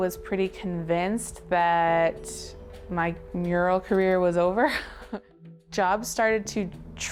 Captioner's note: chuckling